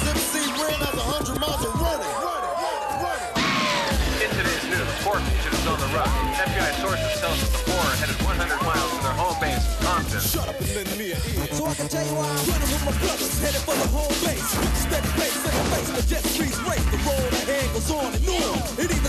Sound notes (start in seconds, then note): 2.7 police sirens wailing; 5.0 radio Announcer